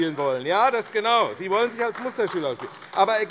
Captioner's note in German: Beifall AfD